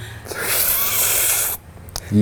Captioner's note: loud slurping